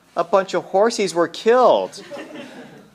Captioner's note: laughter